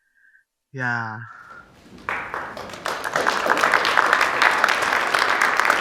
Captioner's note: audience applauding